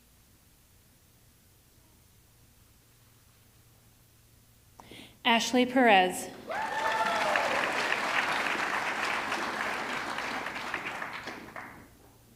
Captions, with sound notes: Ashley Perez, (audience clapping) (audience cheering)